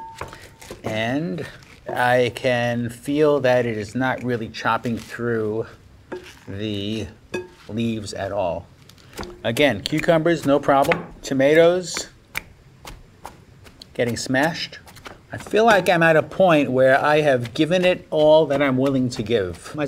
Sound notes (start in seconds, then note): none